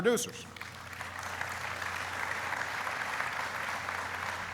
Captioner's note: applauding